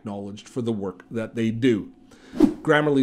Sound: air whooshing

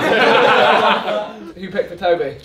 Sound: all laugh

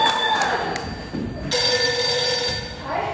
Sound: ringing continues

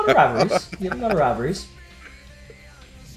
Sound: laugh

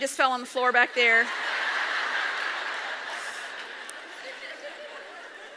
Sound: audience laughs

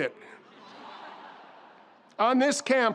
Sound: audience laughs

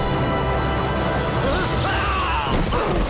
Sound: grunting

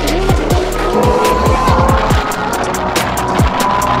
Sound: engine roaring

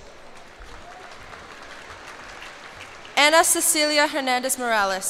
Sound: cheers and applause

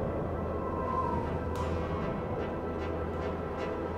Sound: whistling of wind

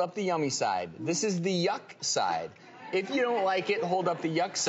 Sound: crowd laughs

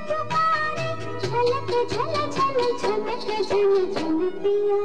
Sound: jingling sound of anklets

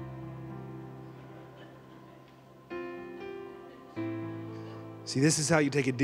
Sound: congregation laughing

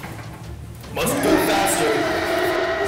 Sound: roar

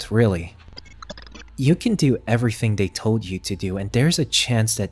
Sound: glitch sound effects

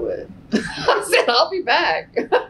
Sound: laughs

